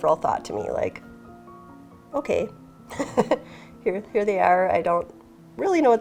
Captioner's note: laughs